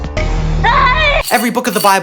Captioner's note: screams